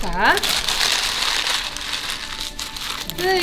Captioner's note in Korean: 바스락 소리